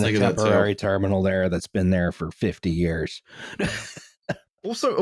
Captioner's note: laughs